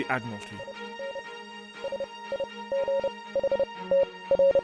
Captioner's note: signal beeps